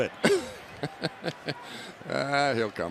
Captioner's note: laughs